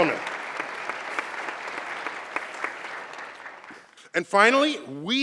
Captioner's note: applause